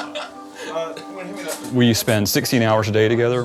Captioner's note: laughing